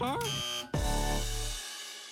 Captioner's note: buzzer